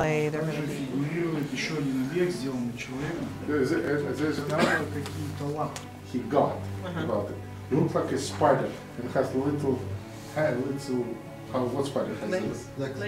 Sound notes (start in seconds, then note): 0.2 speaking russian; 7.2 translator repeating